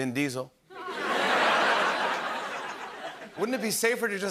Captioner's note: laughter